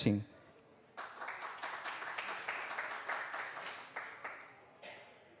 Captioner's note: applause